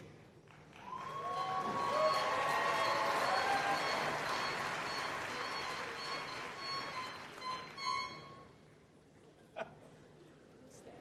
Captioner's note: applause